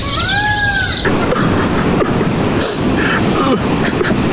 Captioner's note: walrus weeps; birds chirp